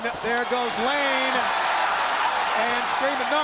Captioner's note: crowd cheering